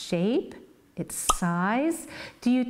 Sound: pop

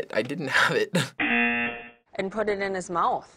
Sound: buzzer

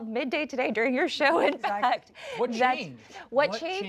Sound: laughs

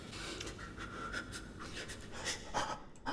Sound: breathing faster

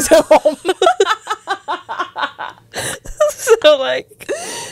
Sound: panel laughing

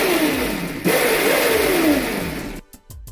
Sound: motor sounds

